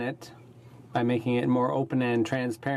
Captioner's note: speaking in french